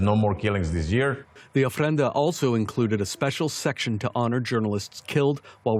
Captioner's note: voice-over